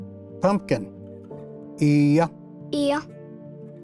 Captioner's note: repeats in Cherokee